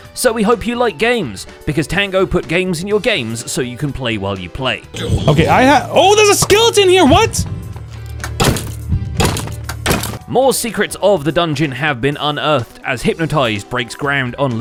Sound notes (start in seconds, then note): 6.2 smacking